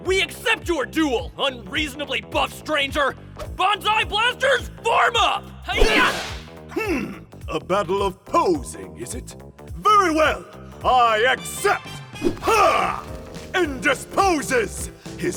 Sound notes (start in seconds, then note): 5.7 karate sounds